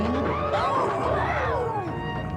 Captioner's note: howls